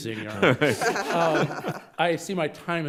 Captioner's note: judges laughing